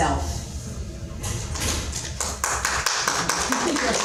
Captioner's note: audience clapping; laughing